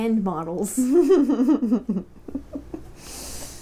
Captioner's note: laughter